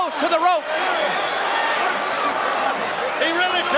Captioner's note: audience cheering